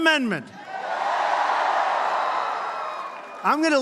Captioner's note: applause